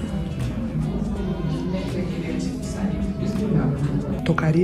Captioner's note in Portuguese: conversas distantes